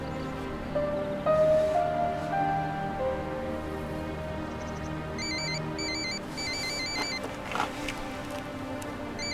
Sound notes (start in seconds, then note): 6.4 phone ringing